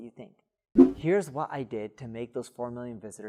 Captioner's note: air whooshing